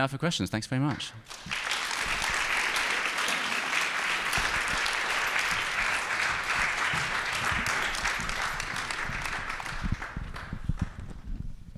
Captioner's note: applause